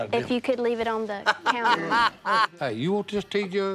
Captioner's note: laughing